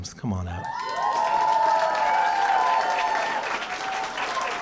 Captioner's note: cheering & applause